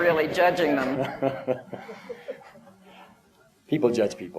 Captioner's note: laughter